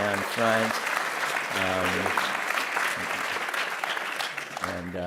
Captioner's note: applause